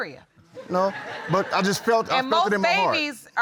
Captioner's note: audience laughs